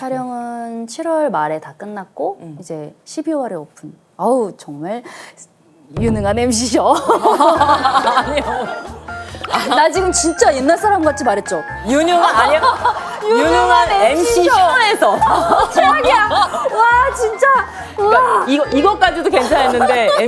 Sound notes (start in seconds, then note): 7.0 hahahaha